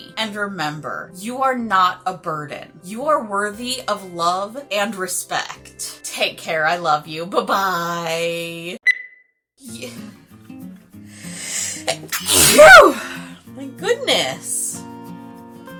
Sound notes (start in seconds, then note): 11.5 cartoonishly large sneeze